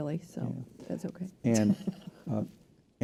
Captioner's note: laughs